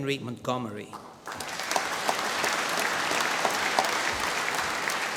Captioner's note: applause